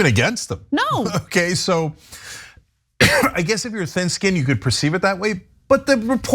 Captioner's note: cough